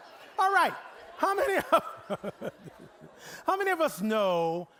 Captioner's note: laughing